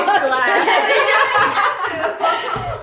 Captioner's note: laughs